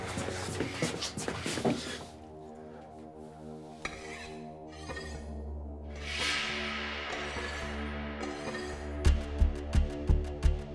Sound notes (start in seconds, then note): 0.0 heavy breathing; 4.3 metal scraping; 6.4 light dramatic music